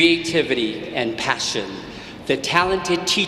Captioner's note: none